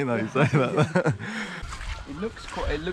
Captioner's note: laughs